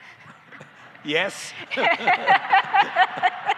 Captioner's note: laughter